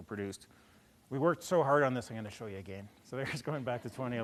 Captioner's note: laughter